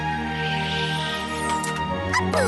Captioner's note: click